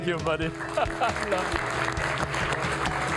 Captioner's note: all applauding